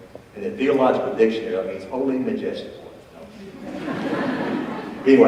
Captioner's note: audience laughs